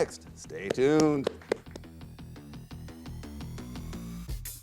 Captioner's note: upbeat music; applauds; upbeat music continues